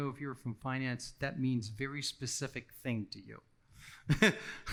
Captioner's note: laughing